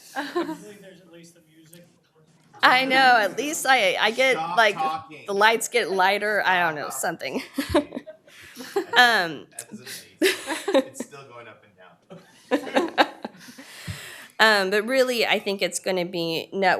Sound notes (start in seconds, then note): 0.0 laughing; 2.6 laughing